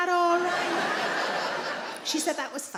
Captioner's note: audience laughs